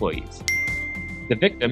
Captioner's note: device dings